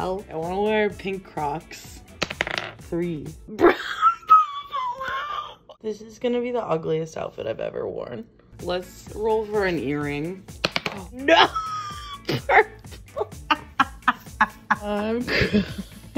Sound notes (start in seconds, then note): 3.6 laughing; 11.2 laughing